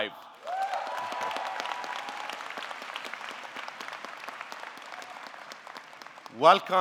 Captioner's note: audience clapping; audience cheering